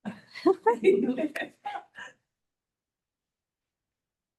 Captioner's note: laughing